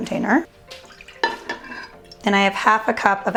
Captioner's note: splashing; clanking